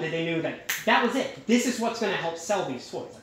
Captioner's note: snap